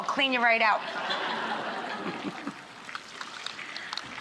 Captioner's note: audience laughing